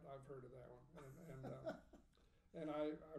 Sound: laughing

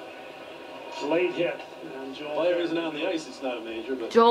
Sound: TV Playing

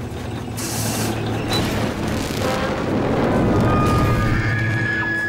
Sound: creaking and shrieking

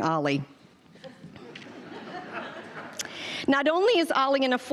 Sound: audience laughing

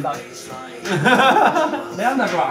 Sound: laughs

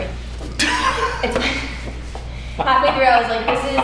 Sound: laughs

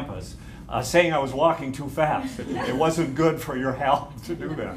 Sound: laughter

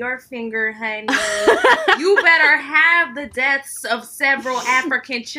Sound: laughing

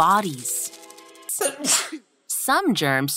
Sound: sneezes

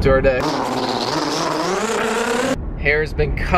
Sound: shaver buzzing

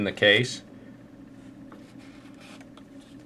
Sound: pause

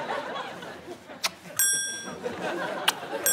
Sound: kiss; kiss

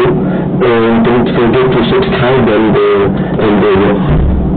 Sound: in french accent lol

